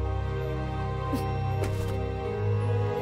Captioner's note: The Clever grunts; mysterious music continues